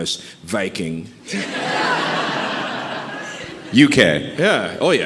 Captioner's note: audience laughing